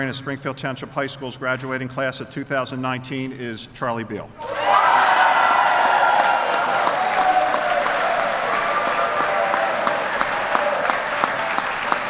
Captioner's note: applause